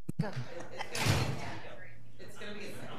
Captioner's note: door banging